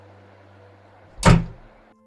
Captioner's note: door slams shut